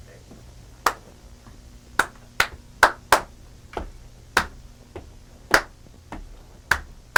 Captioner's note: clapping hands; tapping feet; clapping hands